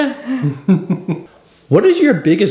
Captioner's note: giggling